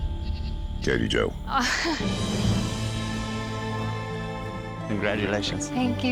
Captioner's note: laughs